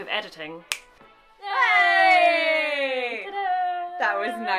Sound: both cheering

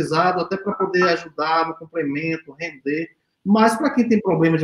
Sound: speaks portuguese

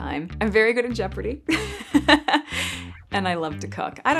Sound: laughs

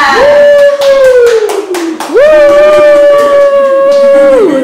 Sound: people applauding

